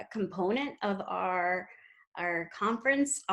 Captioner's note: none